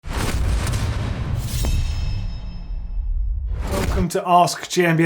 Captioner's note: booming and metal slicing